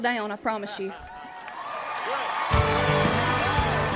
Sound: cheers and applause

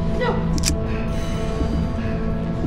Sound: gun clicking

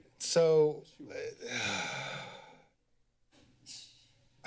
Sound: sigh

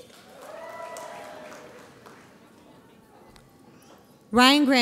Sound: audience applauds

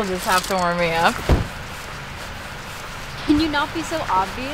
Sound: car door slams

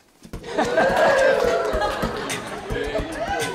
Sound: cheering and beatboxing

